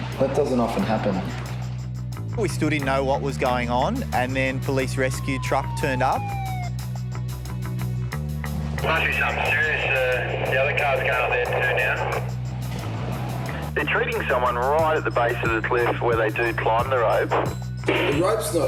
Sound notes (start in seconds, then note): 8.9 man On Radio